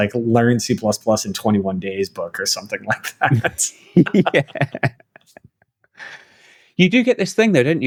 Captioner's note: laughter